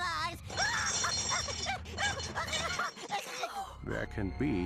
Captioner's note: laughing hysterically